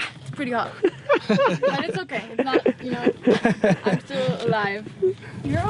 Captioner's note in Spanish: La risa